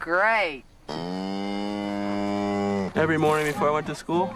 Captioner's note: moos